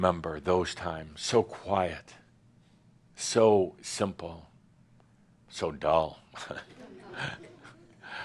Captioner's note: chuckles